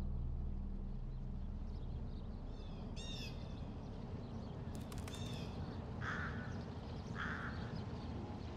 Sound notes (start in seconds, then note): 1.4 birds chirping; 5.0 bird cawing